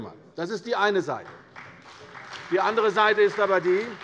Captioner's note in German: Beifall bei der CDU und dem BÜNDNIS 90/DIE GRÜNEN